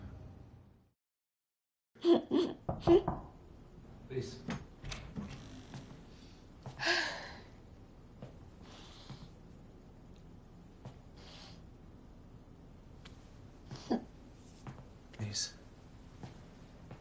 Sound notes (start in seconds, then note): 2.7 knocking; 3.6 Lisa sobbing; 6.7 Lisa sighing